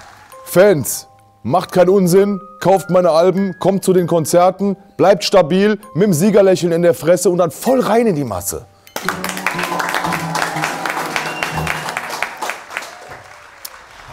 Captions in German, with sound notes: Fans, macht keinen Unsinn, kauft meine Alben, kommt zu den Konzerten, bleibt stabil, mit 'nem Siegerlächeln in der Fresse und dann voll rein in die Masse. (Jubel, Applaus)